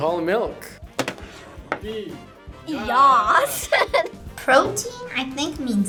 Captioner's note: laughs